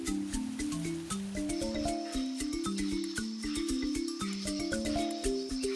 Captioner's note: wildlife chirping